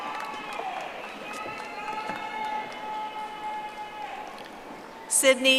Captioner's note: audience applauding